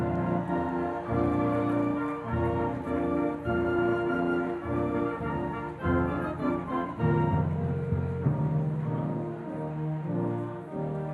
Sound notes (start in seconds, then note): 0.1 audience cheering and applauding; 8.5 regal music